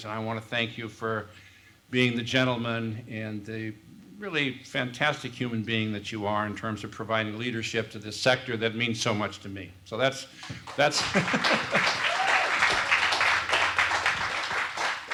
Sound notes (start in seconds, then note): 10.6 applause; 11.0 laugh